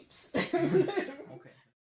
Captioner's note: laughs